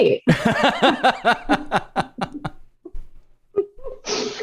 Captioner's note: laughter